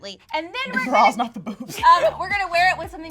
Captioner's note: laughs